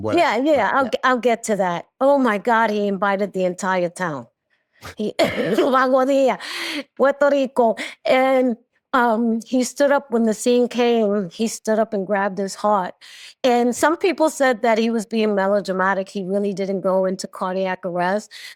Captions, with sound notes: Yeah, yeah, I'll get to that. Oh my God, he invited the entire town. (CHUCKLES) (LAUGHS) Aguadilla, Puerto Rico. And he stood up when the scene came, and he stood up and grabbed his heart. And some people said that he was being melodramatic. He really didn't go into cardiac arrest.